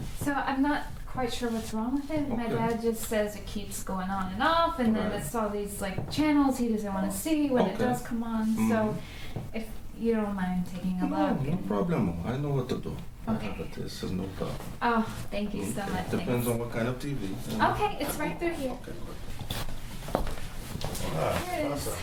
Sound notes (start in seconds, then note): 19.0 steps